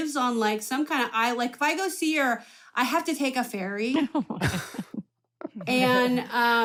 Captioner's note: laughter